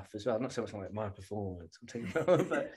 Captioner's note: laughter